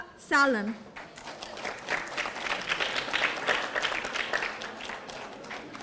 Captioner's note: audience applauding